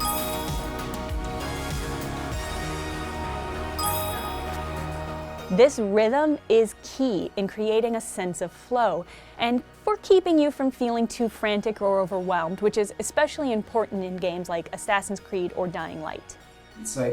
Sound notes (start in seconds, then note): 0.0 chimes; 0.0 synth music; 3.7 chimes